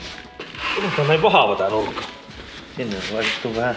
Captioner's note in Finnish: taustahälinää